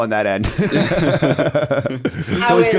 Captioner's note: laughter